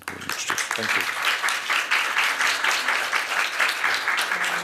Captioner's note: applause